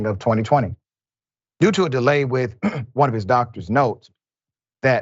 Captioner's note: cough